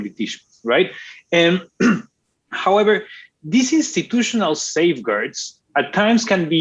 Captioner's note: clears throat